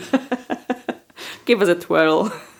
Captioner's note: laughing